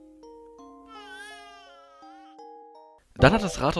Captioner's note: baby noise